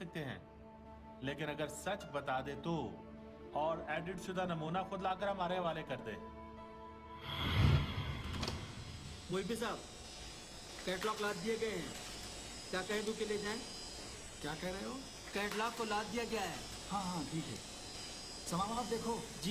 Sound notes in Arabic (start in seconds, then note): 7.2 صوت تنفس عميق